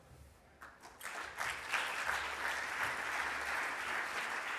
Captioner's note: audience applauds